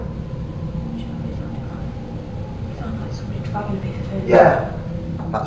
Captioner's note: whispers